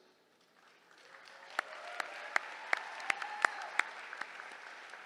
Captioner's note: applause